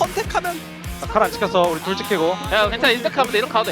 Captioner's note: BuZz